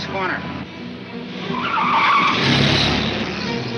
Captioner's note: car wheels screech